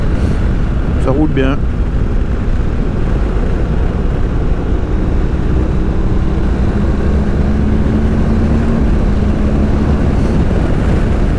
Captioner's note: engine